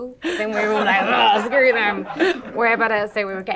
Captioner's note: laughs